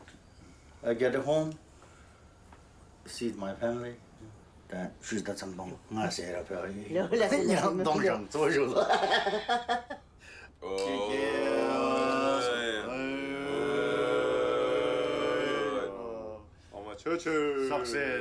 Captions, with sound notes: I go to home, see my family. Oh, thank you very much. Sorry brother and sister-in-law, if I gave you a hard time. (group cheers slowly) (speaking in Sherpa language)